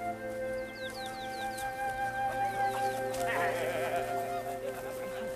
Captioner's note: birdsong; men laughing